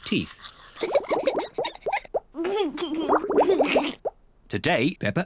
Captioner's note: giggles